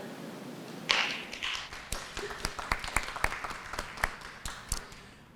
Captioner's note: applause